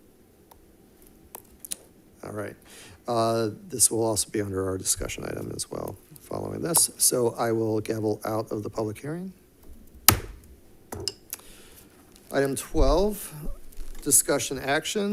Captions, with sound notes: All right. This will also be under our discussion item as well following this. So I will gavel out of the public hearing. (gavel banging) Item 12, Discussion Action.